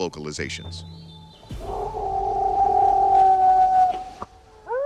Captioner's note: howling, knocking; wolf howling